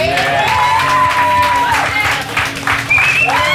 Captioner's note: cheers